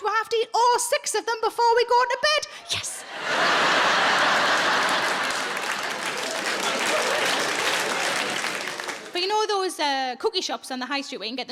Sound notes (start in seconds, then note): 2.9 audience laughs and claps